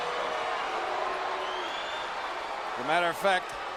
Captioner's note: audience jeering